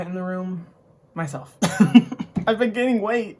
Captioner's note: laughs